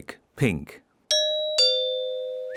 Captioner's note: doorbell rings